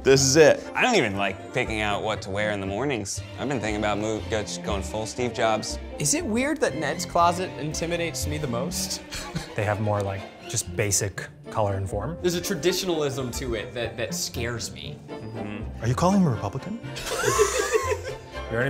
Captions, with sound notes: This is it. - I don't even like picking out what to wear in the mornings. I've been thinking about move, just going full Steve Jobs. - Is it weird that Ned's closet intimidates me the most? (laughs) - They have more, like, just basic color and form? - There's a traditionalism to it that scares me. - Are you calling him Republican? (group laughs)